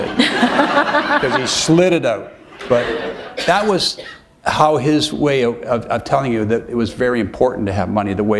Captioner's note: laughter